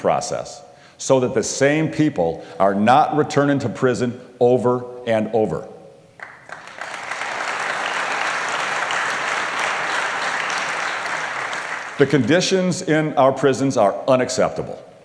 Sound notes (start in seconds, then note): 6.2 applause